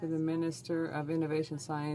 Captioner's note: speaking french